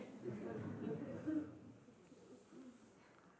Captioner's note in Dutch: gelach